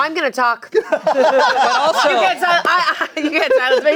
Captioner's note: everyone laughing